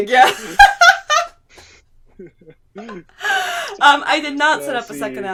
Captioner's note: laughing